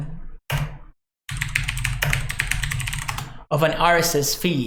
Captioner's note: clicking keyboard